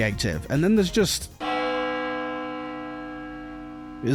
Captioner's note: church Bell